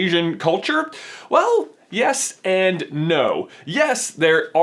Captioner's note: inhales